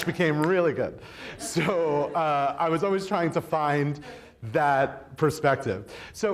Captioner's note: snapping